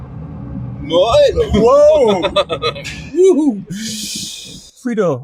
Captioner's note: laughing